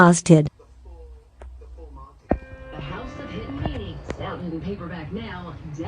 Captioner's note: TV continues playing